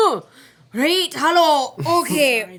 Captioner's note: gasps